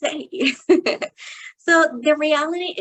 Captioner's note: chuckles